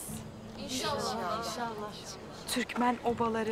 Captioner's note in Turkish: Hep bir ağızdan